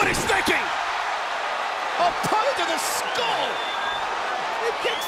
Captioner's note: applause